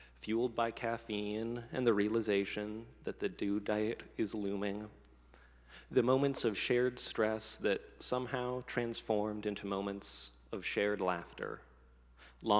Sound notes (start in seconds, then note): none